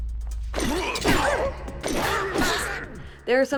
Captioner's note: weapons clashing